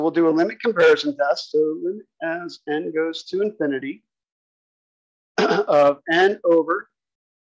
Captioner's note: cough